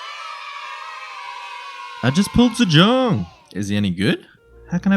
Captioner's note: cheer